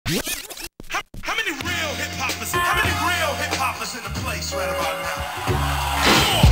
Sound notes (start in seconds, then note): 0.0 vinyl record rewinding